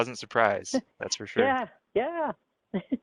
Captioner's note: giggles